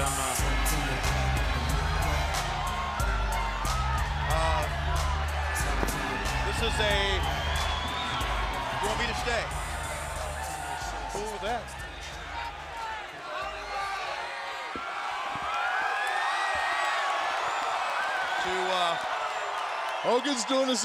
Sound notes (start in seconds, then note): 12.6 crowd cheering